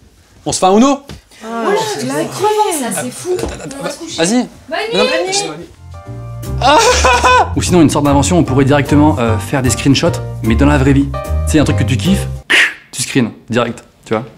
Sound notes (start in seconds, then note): 1.5 sighing and complaining; 6.6 crying